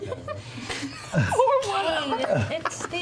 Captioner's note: giggle; laughing